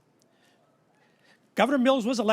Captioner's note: none